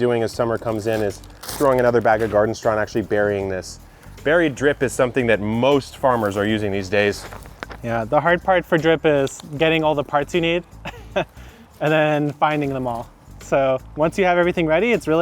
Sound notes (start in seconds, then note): 10.8 laughs